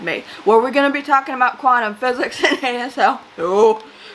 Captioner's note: laughs